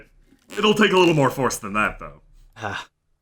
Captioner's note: creaking